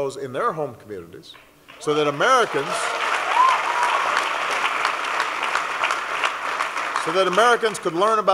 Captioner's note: applause